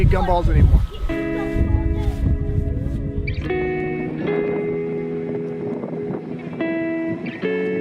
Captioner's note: wind blowing; pensive music